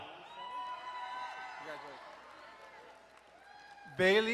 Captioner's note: crowd cheering and applauding